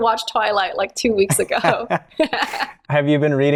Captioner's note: laughter